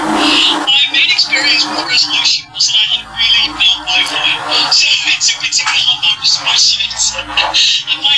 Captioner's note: laughing